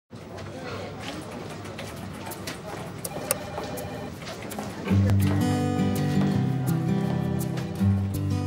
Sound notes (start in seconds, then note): 0.1 office sounds; 4.8 acoustic guitar music